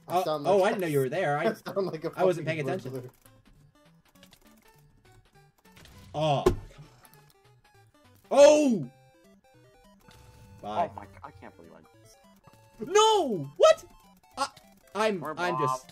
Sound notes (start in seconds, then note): 6.4 table Slam